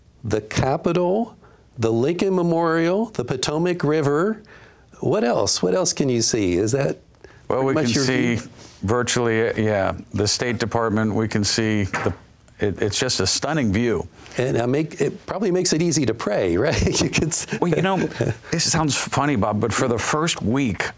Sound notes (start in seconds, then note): 16.6 laughs